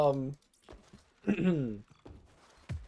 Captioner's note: ahem